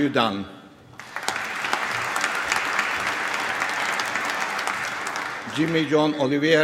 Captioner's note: applause